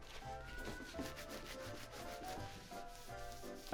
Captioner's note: wiping